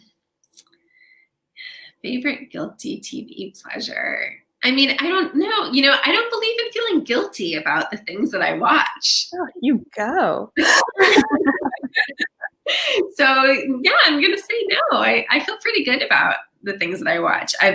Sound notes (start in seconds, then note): 10.6 laughing